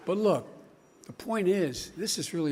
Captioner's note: none